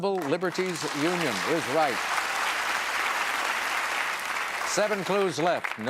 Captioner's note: applause